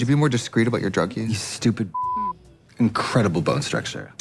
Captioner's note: beep